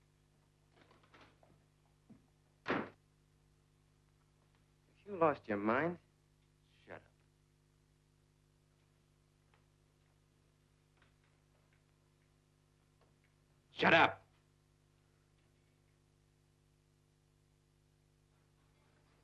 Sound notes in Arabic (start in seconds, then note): 2.6 يُغلق الباب بقوة